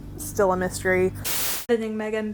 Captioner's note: static